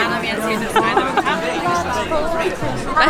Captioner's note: se ríe